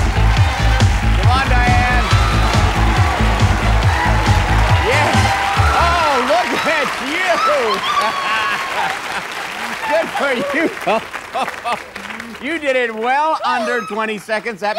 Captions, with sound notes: Come on, Diane. Yes. Oh, look at you. - [screaming] - [laughs] Good for you. [laughs] You did it well under 20 seconds. - Yes!